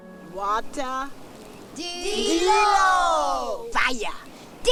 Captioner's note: all respond in Gullah language